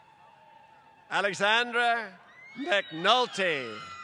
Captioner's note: applause